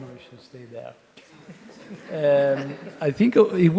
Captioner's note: audience chuckling